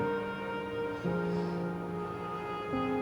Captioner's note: sighs